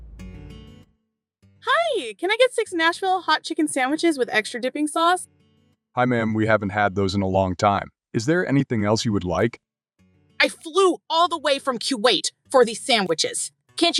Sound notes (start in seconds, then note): 10.3 Chantal angrily